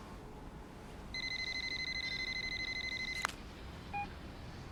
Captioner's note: cell phone rings